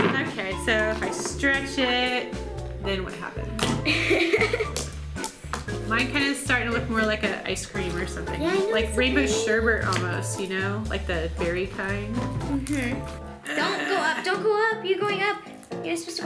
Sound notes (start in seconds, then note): 3.8 laughs